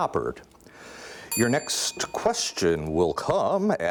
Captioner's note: ding